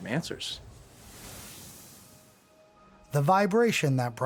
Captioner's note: whooshing electricity